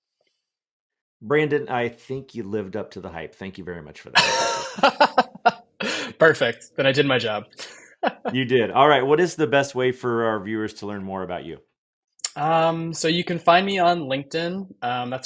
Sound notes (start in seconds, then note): 4.1 laughs; 7.8 laughs